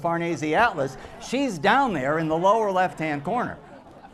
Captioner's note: laughter